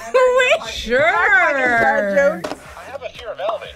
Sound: laughs

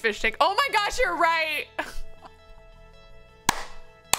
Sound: laughs

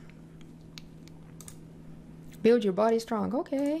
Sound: mouse clicking

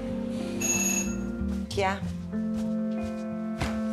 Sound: doorbell

